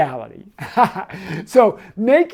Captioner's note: man laughing